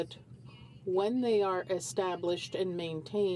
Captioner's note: speaking french